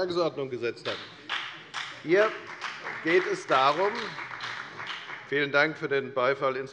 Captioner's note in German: Beifall bei der FDP und bei Abg. der SPD